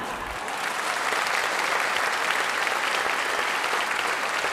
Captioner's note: audience claps